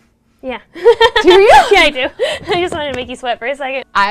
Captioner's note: laughs